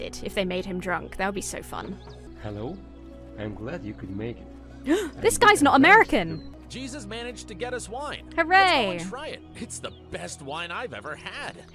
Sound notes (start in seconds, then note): 4.8 gasps